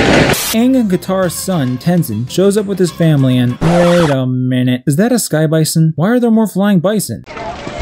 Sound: record scratch

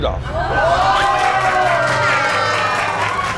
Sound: cheer

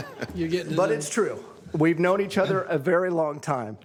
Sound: laughter

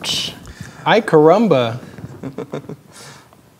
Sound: chuckles

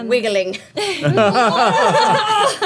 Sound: all laughing

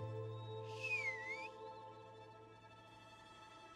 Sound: whistles

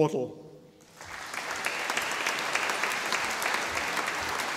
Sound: audience applauding

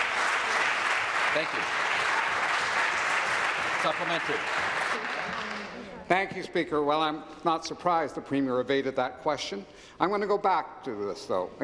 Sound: applause

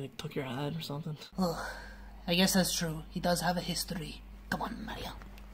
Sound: sighs

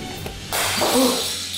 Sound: shell smashes; gasps

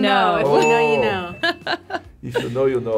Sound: bell dings

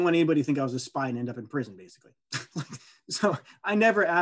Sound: laughing

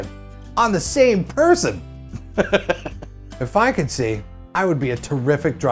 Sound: laughs

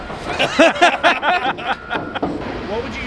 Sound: everyone laughing

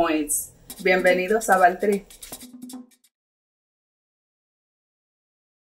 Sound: speaks in foreign language

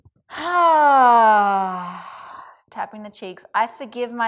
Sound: sighs

